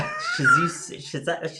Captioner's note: both laughing